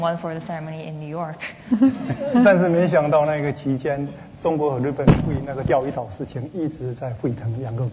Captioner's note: speaking Mandarin